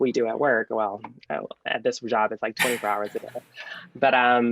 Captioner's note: laughing